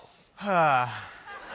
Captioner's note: laughter